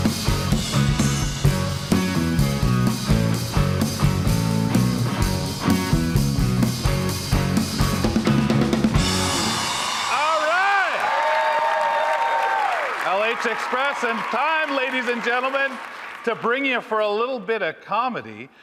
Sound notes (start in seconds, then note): 5.4 upbeat blues music continues; 9.2 audience applauding; 9.2 audience cheering